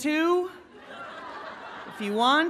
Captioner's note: laughing